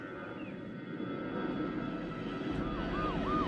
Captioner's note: airplane